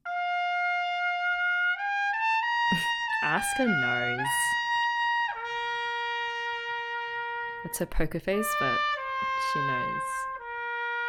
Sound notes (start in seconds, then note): 0.4 trumpet plays; 2.7 laughs; 10.8 trumpet plays